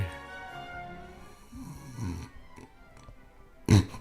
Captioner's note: snoring